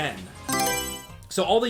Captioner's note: Mario Selection Sound